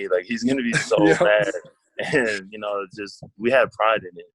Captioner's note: laughs